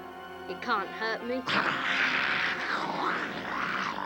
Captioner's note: snarling